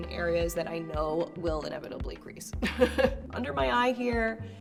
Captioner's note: laughs